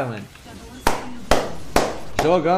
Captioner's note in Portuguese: palmas